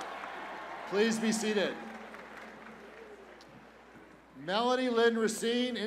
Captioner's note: cheers and applause